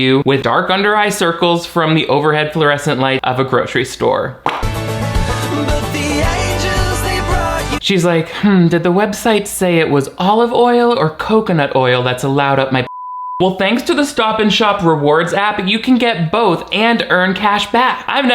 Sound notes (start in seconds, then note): 4.4 upbeat instrumental music; 12.8 beep